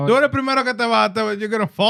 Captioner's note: speaking Foreign Language